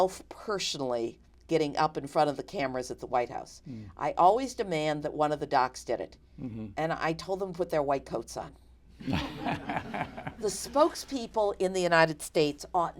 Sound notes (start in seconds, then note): 9.0 laughter